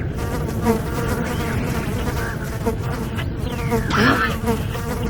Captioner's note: flies buzzing; stifled laughter